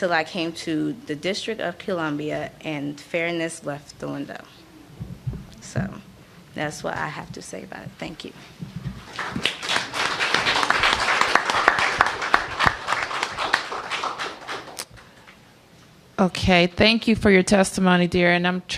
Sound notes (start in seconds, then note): 11.1 applause